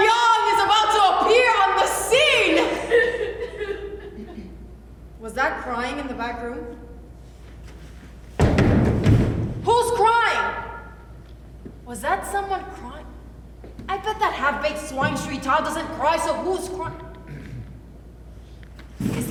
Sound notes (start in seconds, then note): 3.5 sobbing from offstage